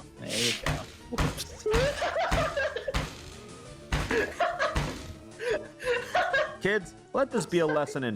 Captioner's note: laughs